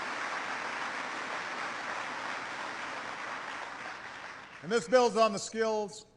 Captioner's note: applause